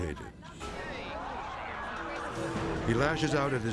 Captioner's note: audience laughing